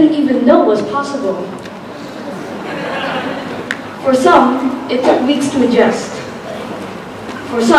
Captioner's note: laughter